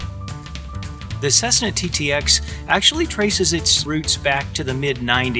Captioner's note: voiceover